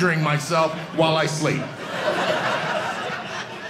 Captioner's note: audience laughing